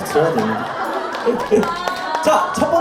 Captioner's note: hahahahaha